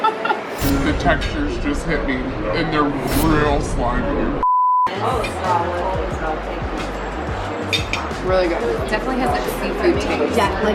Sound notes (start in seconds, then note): 0.9 deep voice